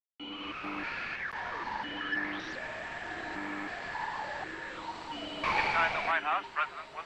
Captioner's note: radio interference